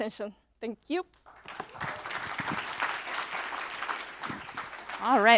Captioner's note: applause